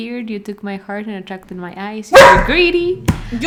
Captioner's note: barking incoming